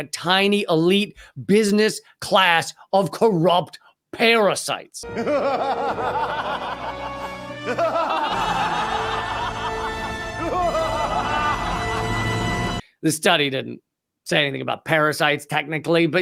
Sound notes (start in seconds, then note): 5.1 laughing; 8.6 dramatic music